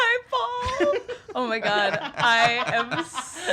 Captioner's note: laugh